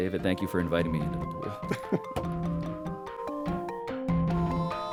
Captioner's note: chuckles; instrumental music